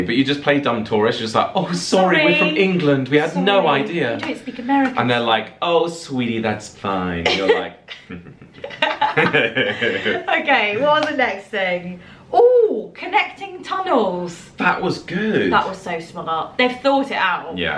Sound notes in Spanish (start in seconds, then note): 8.9 devious laughing